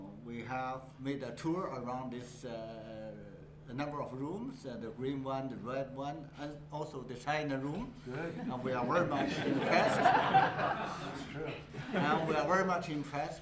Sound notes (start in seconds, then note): 8.3 laughter